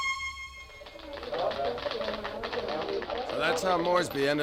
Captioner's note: keys clacking